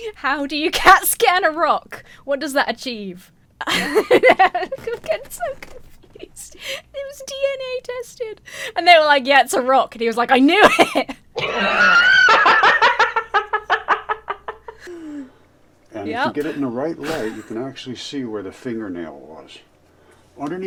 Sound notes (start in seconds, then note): 3.6 laughs; 11.3 both laugh